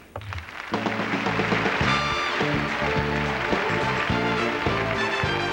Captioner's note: applause